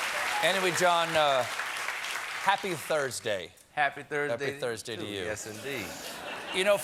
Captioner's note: cheers and applause